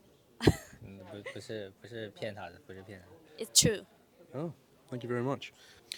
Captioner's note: laughs